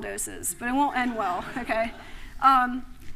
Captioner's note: laughter